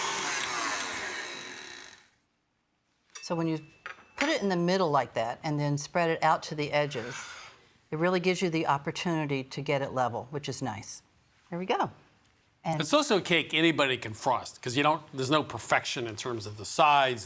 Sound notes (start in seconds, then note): 0.0 mixer stops